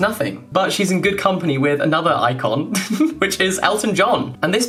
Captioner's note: chuckling